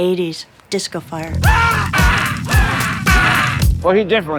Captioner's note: melodic screaming